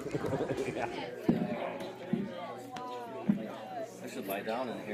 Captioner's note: chattering